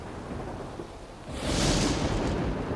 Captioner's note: thunder